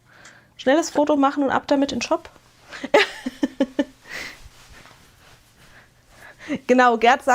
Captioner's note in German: gelächter